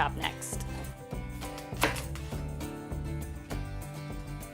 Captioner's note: cutting into potatoes